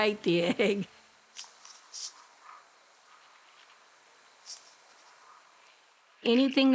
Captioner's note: soft scratchy sound